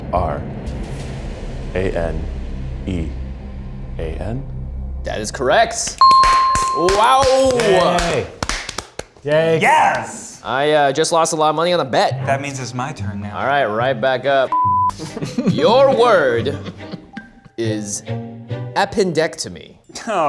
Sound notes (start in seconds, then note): 6.0 bell rings; 14.5 beeps